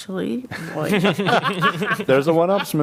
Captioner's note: laughter